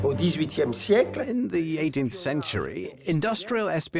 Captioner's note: voiceover